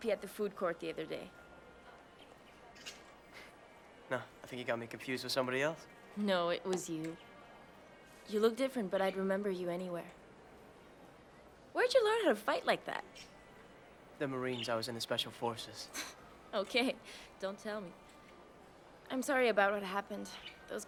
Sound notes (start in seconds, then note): 16.5 chuckles